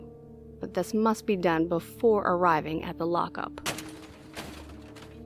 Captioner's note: crash